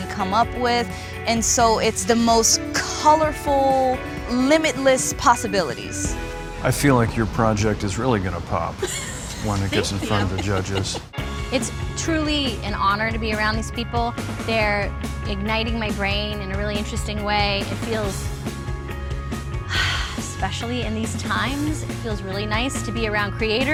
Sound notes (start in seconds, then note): 8.8 laughs; 19.6 sighs